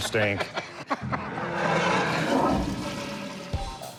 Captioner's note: toilet flushes